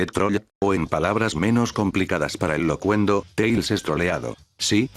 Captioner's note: voice synthesizer